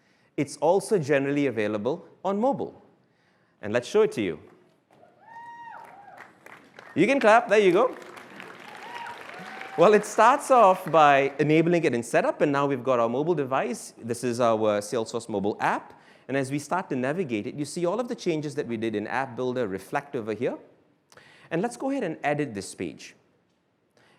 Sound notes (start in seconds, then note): 5.0 cheering; 8.1 applause